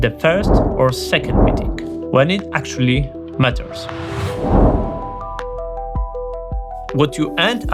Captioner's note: whooshing